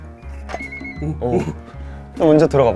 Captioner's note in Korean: 문 오픈